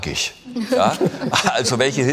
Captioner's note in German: Lachen